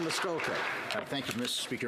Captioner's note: some Applause